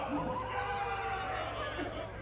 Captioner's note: applause